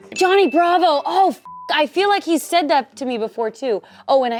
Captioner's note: beep